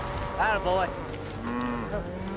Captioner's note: cow mooing